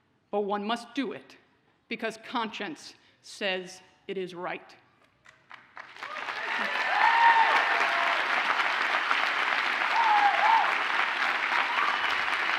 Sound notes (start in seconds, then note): 5.7 audience cheers and applauds